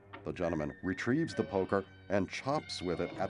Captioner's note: groaning